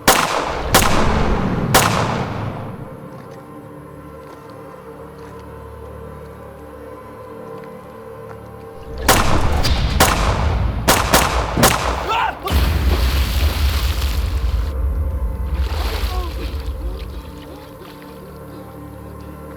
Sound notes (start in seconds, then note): 0.0 gunshots blasting; 3.3 tense music; 8.8 gunshots blasting; 12.2 sheriff yells; 13.4 water splashes; 16.7 sheriff gasps